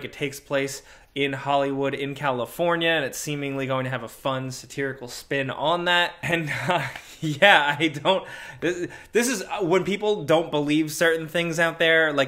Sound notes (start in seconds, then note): 6.2 laughs